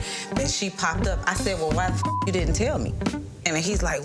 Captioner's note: beep